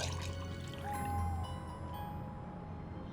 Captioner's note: water pours; owl hooting